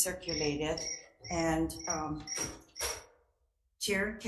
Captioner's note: alarm rings